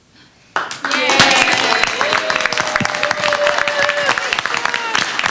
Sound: applause

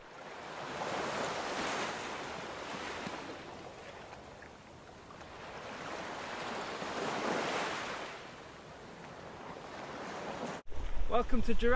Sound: waves

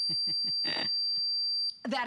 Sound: laughter

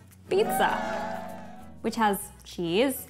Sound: people cheering

